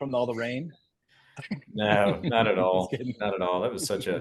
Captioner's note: laugh